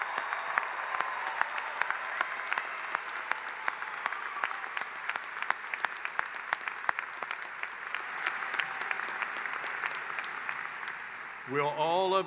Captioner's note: applause